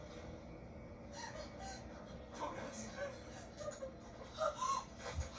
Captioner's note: crying, scared as in front of her